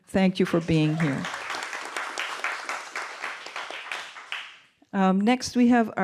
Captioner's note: applause